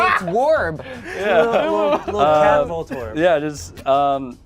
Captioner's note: group laughs; overlapping chattering